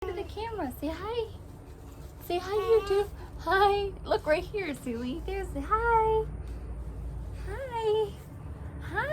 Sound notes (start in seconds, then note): 2.4 baby babbling